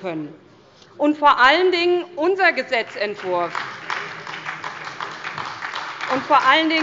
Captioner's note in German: Beifall bei der SPD